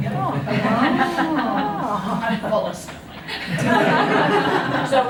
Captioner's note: laughter